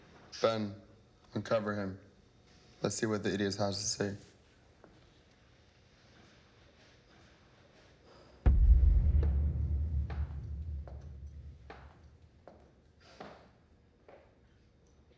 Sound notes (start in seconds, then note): 8.4 dramatic music; 10.1 footsteps tapping